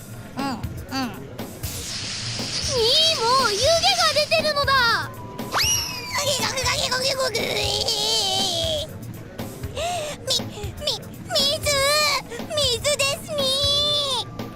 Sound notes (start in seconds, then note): 0.8 nom; 7.2 unintelligible anguish